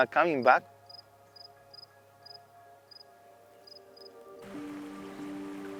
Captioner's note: more crickets chirping; water flowing sounds, peaceful music